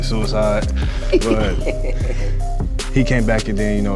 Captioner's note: laughs